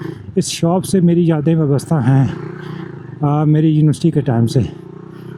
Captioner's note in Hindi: गला साफ़ करने की आवाज़